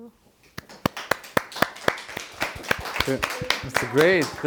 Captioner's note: applause